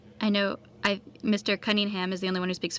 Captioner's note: speaking French